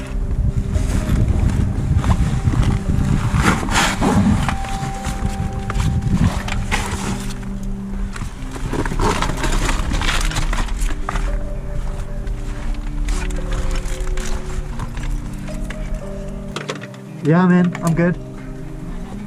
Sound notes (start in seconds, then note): 0.2 scraping and shuffling; 0.2 wind blows over microphone; 8.1 rocks clatter; 9.1 metallic clinking